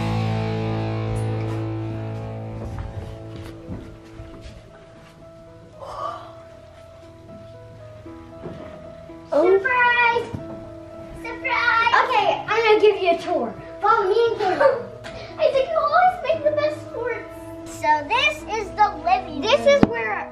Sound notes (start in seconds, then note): 5.8 gasp